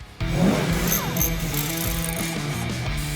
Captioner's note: engine revving; tool clicking; upbeat rock music